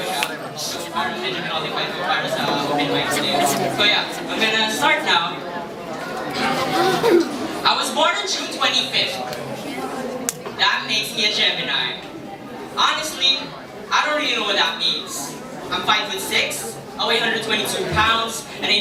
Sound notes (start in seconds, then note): 6.4 clears throat